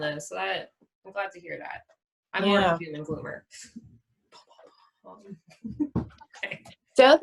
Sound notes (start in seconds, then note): 4.1 sound effects; 5.4 laughter